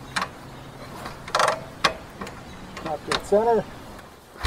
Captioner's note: ratchet sound